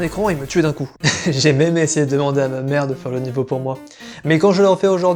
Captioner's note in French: rire